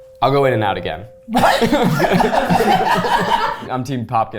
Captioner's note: all laughing